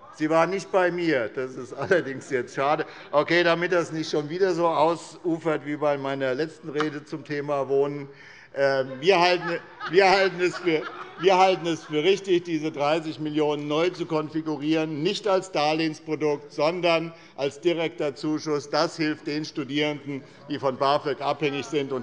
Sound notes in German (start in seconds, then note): 8.6 Heiterkeit